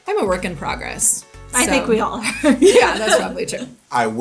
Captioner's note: laughs